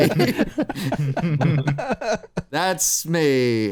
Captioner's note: laughter